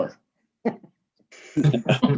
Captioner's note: members laughing; laughing